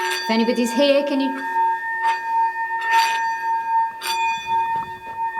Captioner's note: bowl dinging